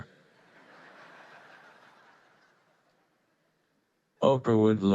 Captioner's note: audience laughing